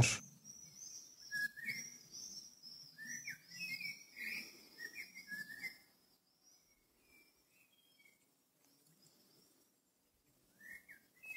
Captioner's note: bird sounds